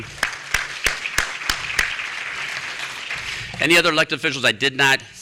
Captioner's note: applause